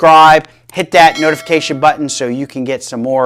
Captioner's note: bell ringing